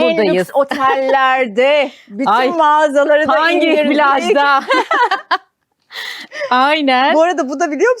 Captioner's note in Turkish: kahkaha